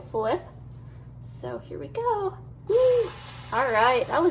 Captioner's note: pancake sizzling